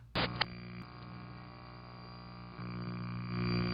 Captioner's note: static buzzes